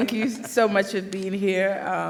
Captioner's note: laughter